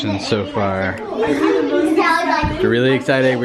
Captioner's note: children talking